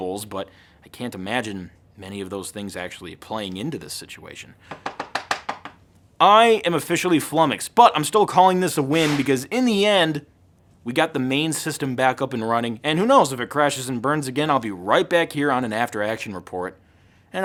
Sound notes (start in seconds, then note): 4.7 tapping